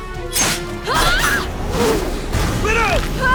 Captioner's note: wincing